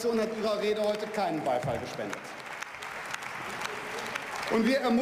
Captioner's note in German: Beifall